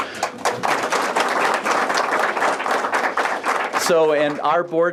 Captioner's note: applause